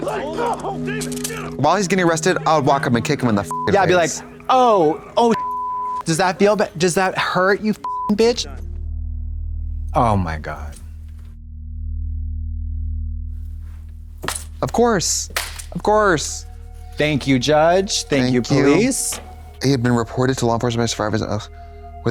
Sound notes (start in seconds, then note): 3.5 beep; 5.3 beep; 8.0 beep